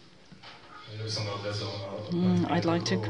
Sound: non-english

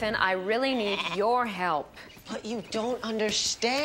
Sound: none

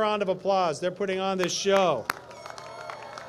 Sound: applause

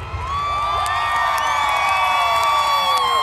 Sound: loud cheering; applause

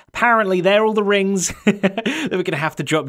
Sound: chuckles

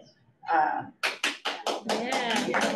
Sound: audience claps

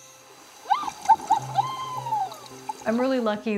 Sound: laughing, water splash

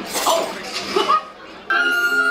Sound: laughing; enchanting music

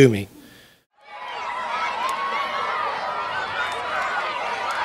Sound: children chattering

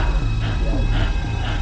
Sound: breathing heavily

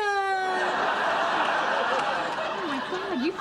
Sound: audience laughter

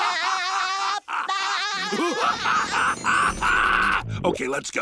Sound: laughing; cackles maniacally

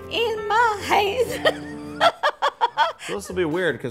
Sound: granny laughing

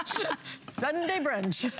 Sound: laughter

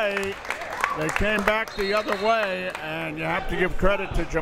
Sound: whistle tweeting

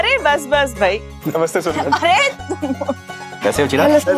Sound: laughs

